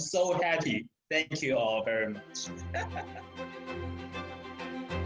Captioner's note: laughs